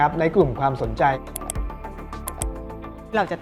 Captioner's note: mouse clicking